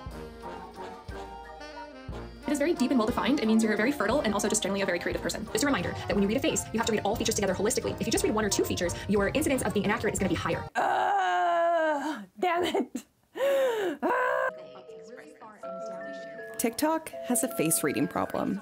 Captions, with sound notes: (upbeat music) It is very deep and well defined. It means you're a very fertile and also just generally a very creative person. It's a reminder that when you read a face, you have to read all features together holistically. If you just read one or two features, your incidence of being inaccurate is gonna be higher. - Ah, damn it. (laughs) Ah. TikTok has a face reading problem.